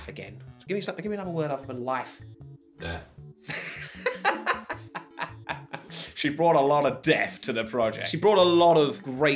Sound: laughter

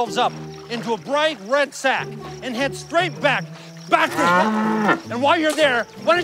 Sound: cow mooing

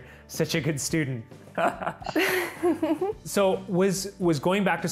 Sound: laughter

